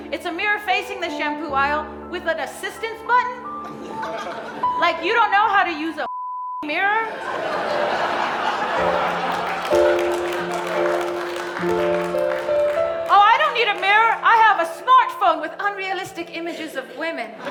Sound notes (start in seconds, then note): 6.0 beep; 7.0 audience laughing; 9.6 audience applauding; 11.6 gentle bright music continues